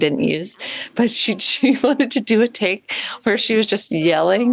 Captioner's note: chuckles